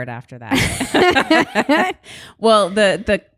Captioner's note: both laugh